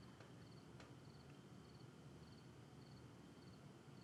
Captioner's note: insects chirping